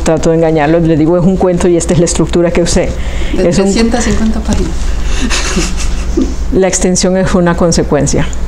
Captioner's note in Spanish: Se ríe